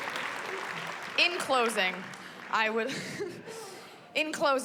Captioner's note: chuckles